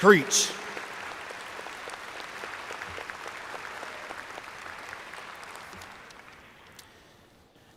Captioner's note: applause